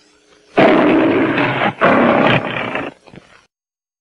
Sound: Leo the Lion roars

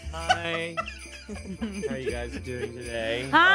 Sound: laughs

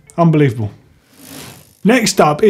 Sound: bike chain whirring

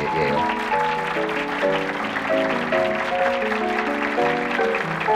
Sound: audience applauding; light piano music

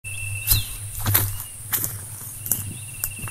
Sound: footsteps

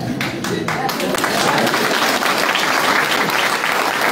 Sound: applause

